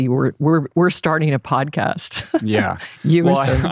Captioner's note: laughs